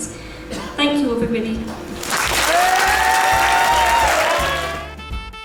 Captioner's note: audience cheers and applauds